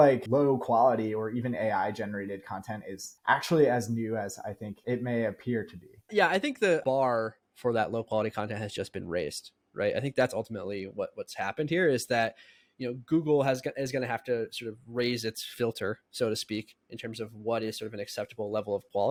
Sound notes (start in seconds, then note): 15.1 speaking